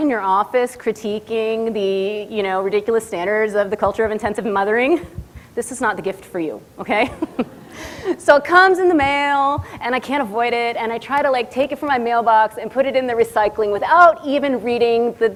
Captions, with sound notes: in your office critiquing the ridiculous standards of the culture of intensive mothering, this is not the gift for you, OK? [LAUGHS] So it comes in the mail and I can't avoid it. And I try to take it from my mailbox and put it in the recycling without even reading